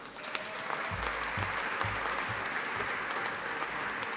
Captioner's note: audience applauding